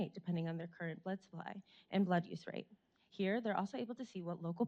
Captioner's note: none